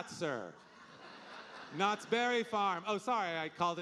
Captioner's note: audience laughing